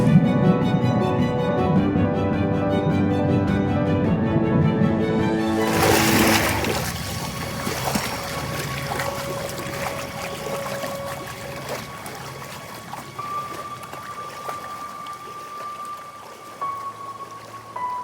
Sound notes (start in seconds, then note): 0.2 dramatic orchestral music continues; 6.5 water splashing; 13.4 dramatic orchestral music continues